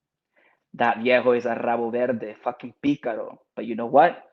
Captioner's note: speaking Spanish; speaks Spanish